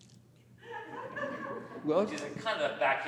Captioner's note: audience laughs